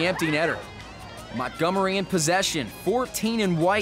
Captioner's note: crowd screams